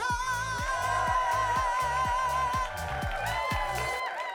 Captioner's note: audience cheering